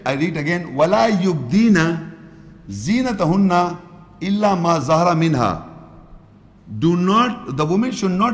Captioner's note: Arabic